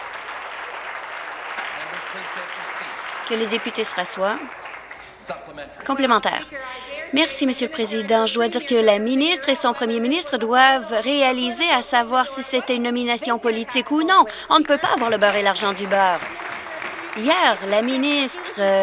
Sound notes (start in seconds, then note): 0.0 some Applause; 18.1 some Applause